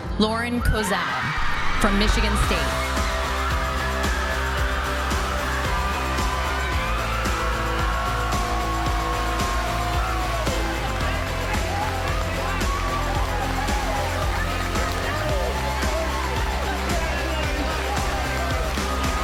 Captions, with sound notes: Lauren Kozal from Michigan State. (crowd cheering) (light instrumental music) (crowd cheering)